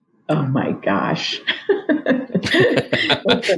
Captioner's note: laughs